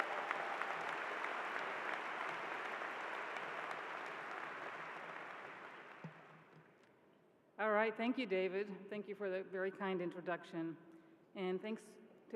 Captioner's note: applause